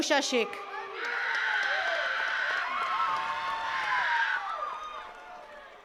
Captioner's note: attendees cheering and clapping